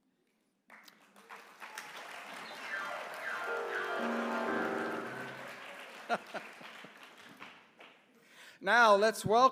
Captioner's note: applause